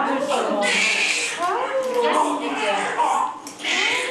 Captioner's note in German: Baby schreit